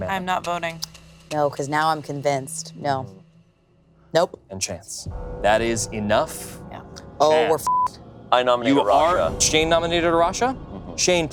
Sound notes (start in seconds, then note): 7.2 bell chiming; 7.4 beep